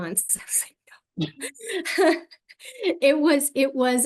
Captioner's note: laughter